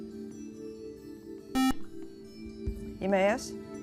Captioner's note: buzzer